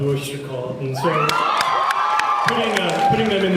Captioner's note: cheers